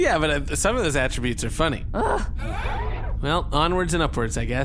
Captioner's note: Dar and C-53 sigh in frustration